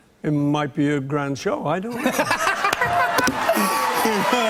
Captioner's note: laughing; cheers and applause